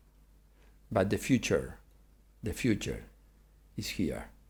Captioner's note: none